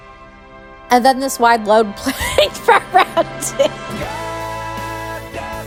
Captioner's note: laughing